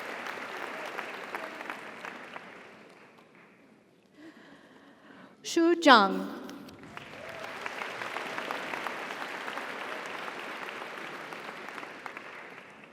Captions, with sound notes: - Thank you so much. - You're welcome. - Xu Zhang. (audience applauds) (audience cheers)